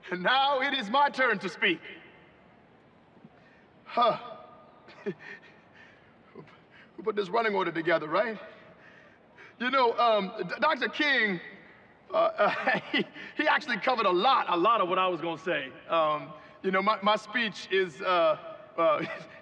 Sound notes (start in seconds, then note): 4.8 chuckles and stammers